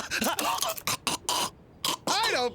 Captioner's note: gagging